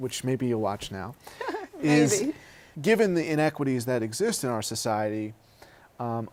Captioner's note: laughter